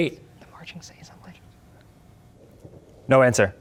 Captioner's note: whispering